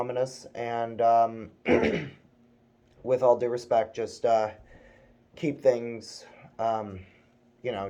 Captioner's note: clears throat